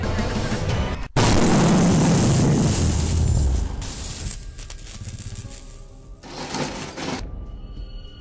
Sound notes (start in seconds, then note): 1.2 loud Explosion Heard Across The City; 7.1 suspense Music